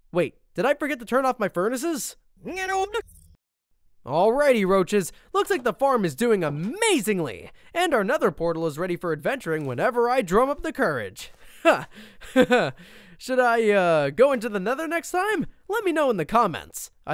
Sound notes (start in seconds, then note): 12.2 laughs